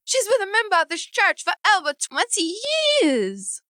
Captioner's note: none